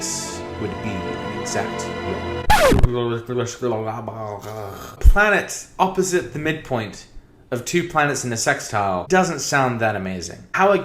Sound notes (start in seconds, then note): 2.4 record scratching noise; 4.4 even more incoherent mouth noises